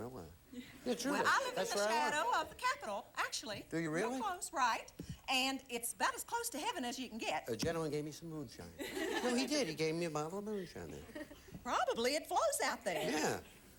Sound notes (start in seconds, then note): 8.8 audience laughing